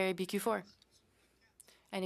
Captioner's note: speaking French